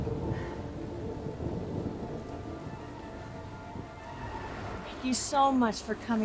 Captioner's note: thunder rumbles; dramatic string music